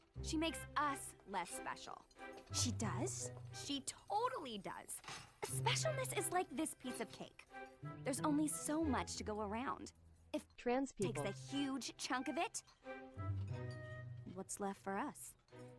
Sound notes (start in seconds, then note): 10.6 TTS voice